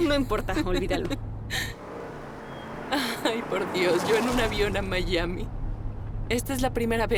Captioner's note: laughs